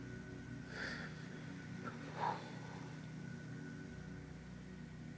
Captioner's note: Lance inhales and exhales